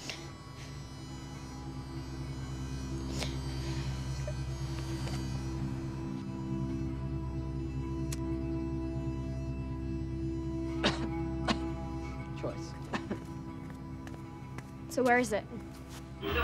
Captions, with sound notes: [COUGHS] Choice. So where is it?